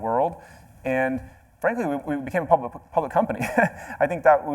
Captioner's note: laughs